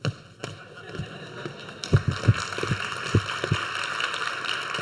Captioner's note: audience applauds